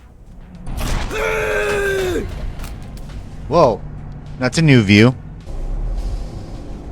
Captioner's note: screaming